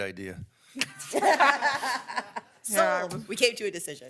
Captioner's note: people laughing